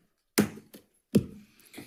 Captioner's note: gavel thudding